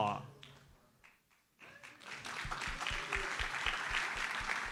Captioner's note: audience applauds